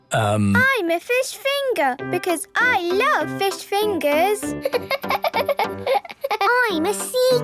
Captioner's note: laughing